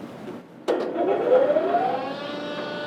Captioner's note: machine whirring